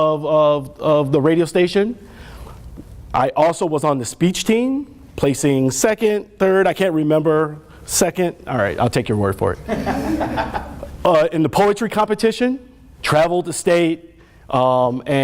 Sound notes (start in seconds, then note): 9.6 laughter